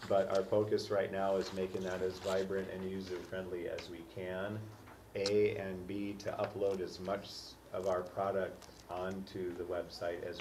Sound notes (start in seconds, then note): none